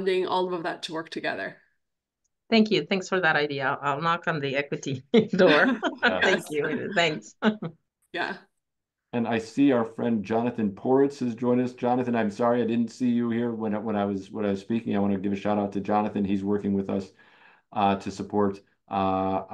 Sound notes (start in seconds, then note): 5.1 group laughs